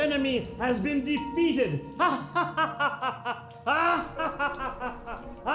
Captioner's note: evil laugh